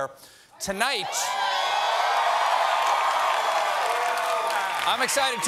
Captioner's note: cheers and applause